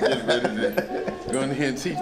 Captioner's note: laughs